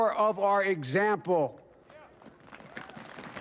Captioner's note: applause